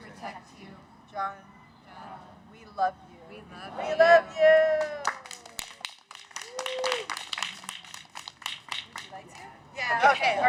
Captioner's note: cheers